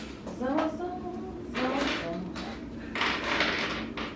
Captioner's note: humming